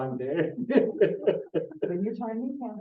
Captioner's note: presenter laughing